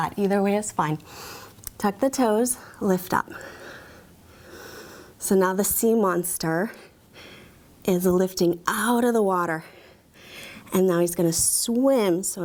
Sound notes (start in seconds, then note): 3.4 breathing deeply